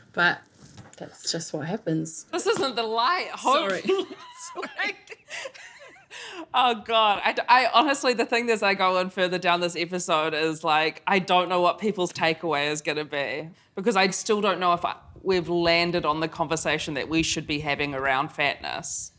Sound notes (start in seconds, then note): 3.5 laughs